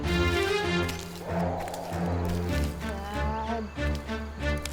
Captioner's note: riverbeast roaring